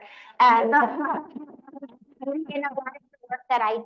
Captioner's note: all laughing